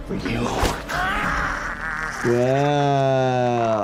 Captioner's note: person screams